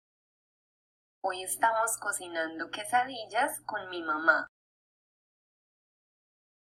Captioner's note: speaking in foreign language